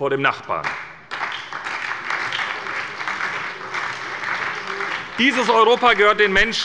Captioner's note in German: Beifall bei der SPD und dem BÜNDNIS 90/DIE GRÜNEN